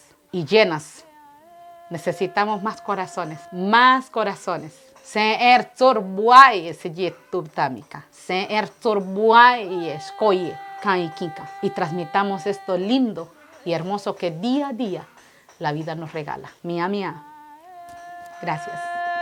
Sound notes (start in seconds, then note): 5.0 He speaks in the Bribri language